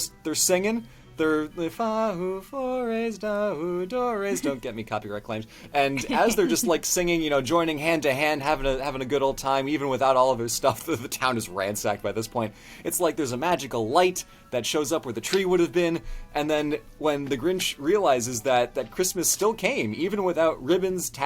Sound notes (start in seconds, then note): 5.8 laughs